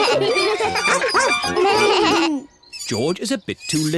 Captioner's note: all giggle